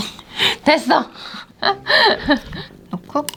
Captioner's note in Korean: 웃음